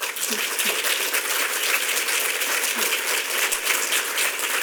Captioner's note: audience clapping